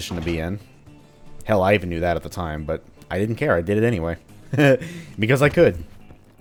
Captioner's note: chuckles